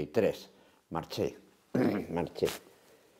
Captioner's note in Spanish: carraspea